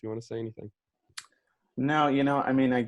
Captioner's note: tongue smack